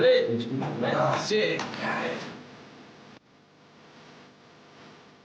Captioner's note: speaking in foreign language